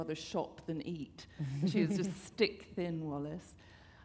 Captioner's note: chuckle